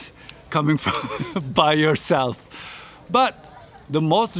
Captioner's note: laughing